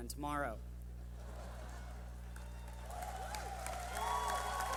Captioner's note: clapping